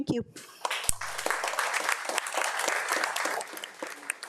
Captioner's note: audience applauds